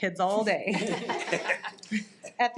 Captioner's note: audience laughs